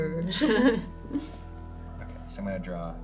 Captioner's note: giggle